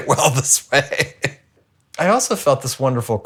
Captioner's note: chuckling